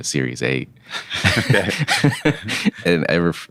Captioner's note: laughing